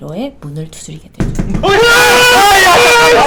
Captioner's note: knock knock